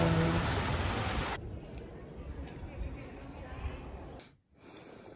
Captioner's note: water sound; street sounds; breath